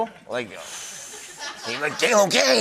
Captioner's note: laughter